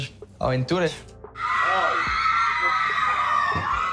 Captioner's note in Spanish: chicas aclaman